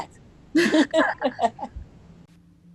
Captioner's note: laughter